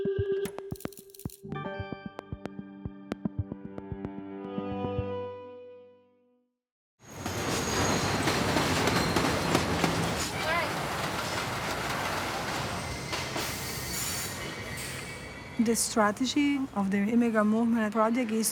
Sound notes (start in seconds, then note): 0.0 ambient electronic music; 7.2 train rattling; 10.6 group chattering